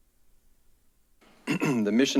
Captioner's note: clears throat